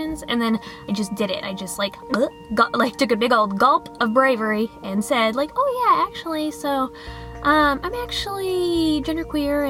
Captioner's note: gulping noise